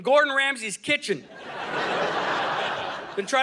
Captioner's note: audience laughing